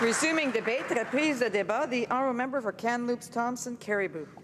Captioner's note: applause